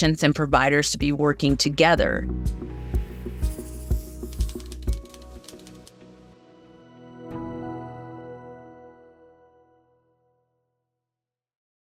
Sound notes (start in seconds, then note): 2.4 calm music; 2.4 keyboard clacking